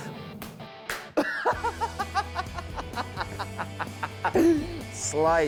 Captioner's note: laughter